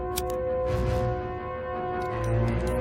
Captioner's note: lighter clicking